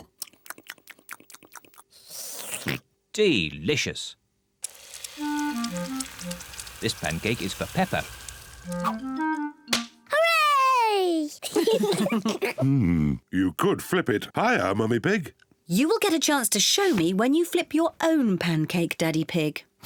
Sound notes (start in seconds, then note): 0.1 slurps and oinks; 11.4 kids and mummy pig laugh